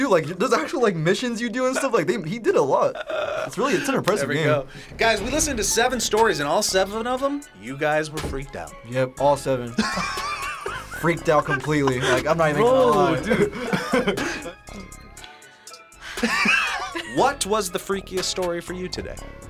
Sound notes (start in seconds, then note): 9.7 both laugh; 14.2 laughs; 16.0 React laughs